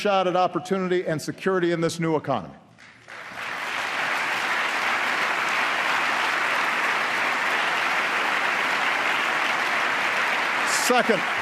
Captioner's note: applause